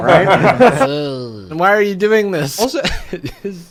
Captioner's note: group laughing; groans; laughs